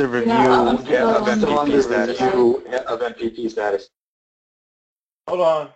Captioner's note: laugh